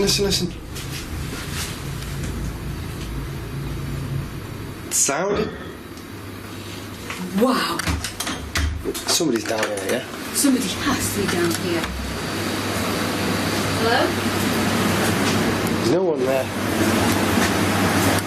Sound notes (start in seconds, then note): 6.0 loud thumping